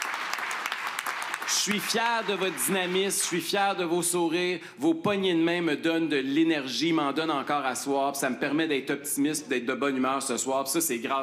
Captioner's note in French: applaudissements